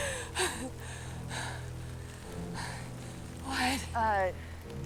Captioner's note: Mackenzie chuckles